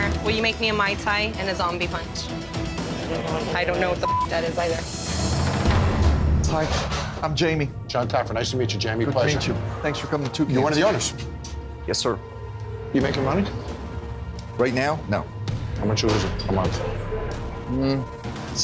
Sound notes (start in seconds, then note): 4.0 beeps